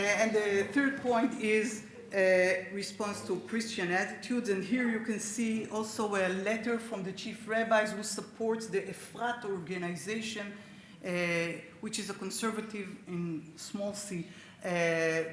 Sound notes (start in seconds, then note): 9.2 speaks Hebrew